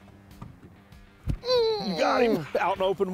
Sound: grunts

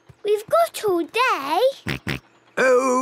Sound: snort

